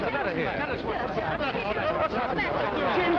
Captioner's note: people murmuring